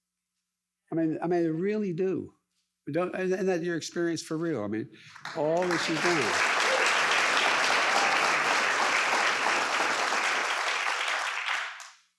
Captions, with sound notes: I mean, they really do. We don't, and that, your experience, for real. I mean, all that you've done. (audience applauds)